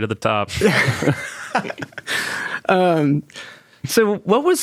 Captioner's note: participants laughing